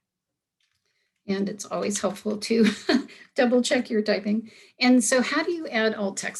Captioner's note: giggle